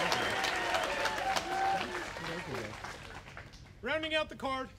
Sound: applause

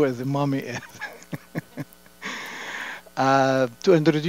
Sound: laughter

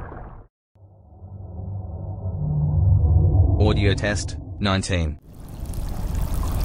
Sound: eerie ethereal transitional SFX

